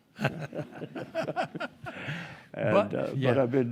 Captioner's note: group laughing